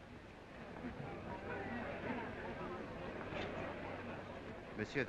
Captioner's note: crowd murmuring